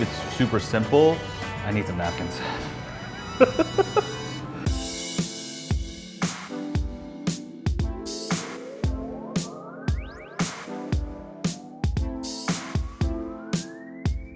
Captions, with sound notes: it's super simple. I need some napkins. (laughs) (slow R&B music)